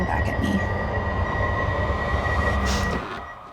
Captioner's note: beeping